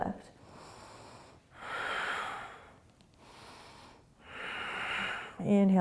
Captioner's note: deep breathing